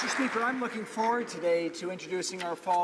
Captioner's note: some Applause